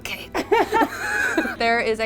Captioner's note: laughter